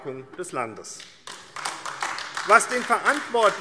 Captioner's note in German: Beifall AfD